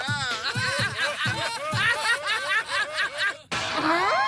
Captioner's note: laughs